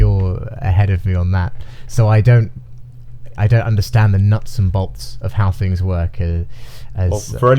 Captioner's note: laughing